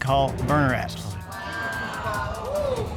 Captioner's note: audience exclaiming